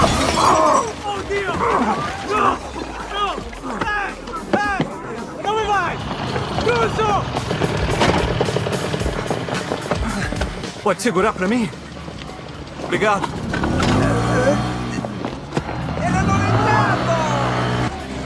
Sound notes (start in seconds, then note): 0.1 man shouting; 9.4 panting; 10.6 in English; 13.9 sputtering; 15.8 man shouting in Italian